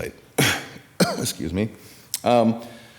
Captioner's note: coughing